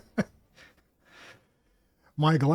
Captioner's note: laughter